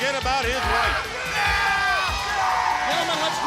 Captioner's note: crowd cheering